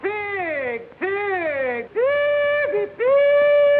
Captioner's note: hollering